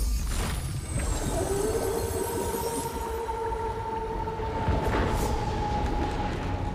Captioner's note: howl